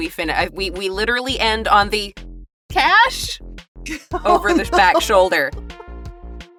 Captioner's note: chuckles